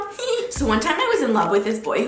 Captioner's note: giggles